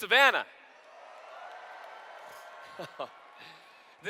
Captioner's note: cheers